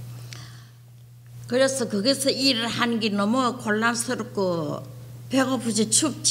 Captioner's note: speaking foreign language